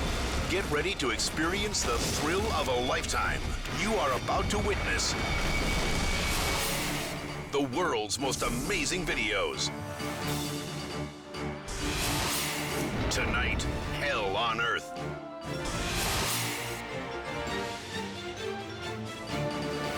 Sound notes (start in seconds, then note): 5.0 logo swooshing; 9.8 dramatic music; 11.9 logo swooshing; 15.6 scene swooshing; 17.3 dramatic music continues